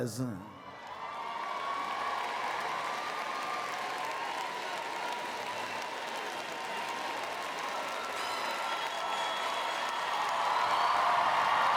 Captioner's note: applause and Cheers